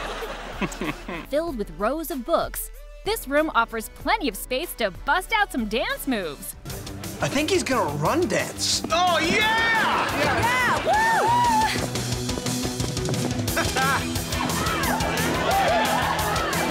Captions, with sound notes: Filled with rows of books, this room offers plenty of space to bust out some dance moves. I think he's gonna run-dance. Oh, yeah! - Yeah! - Whoo! [laughs]